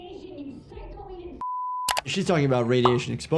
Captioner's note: beeps